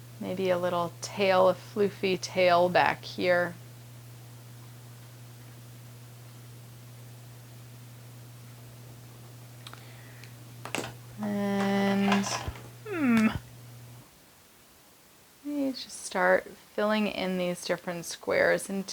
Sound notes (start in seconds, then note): 11.9 markers rattling